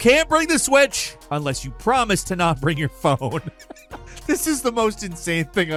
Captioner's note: laughing